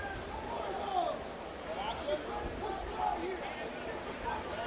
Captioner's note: fans yelling